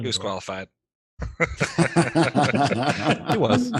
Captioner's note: laughter